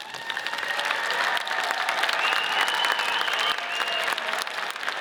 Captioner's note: audience cheers and applauds